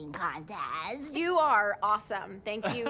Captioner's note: laughs